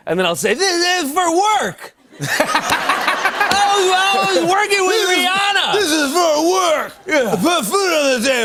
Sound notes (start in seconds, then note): 2.0 laughter